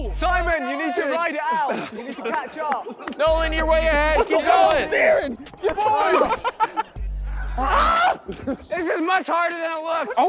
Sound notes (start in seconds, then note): 6.8 contestants laughing; 7.5 Simon screaming